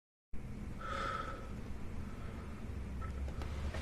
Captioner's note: sighs deeply